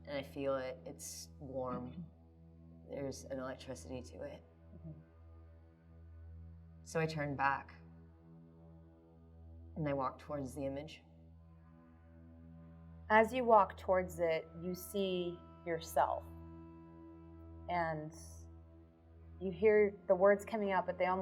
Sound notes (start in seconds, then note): none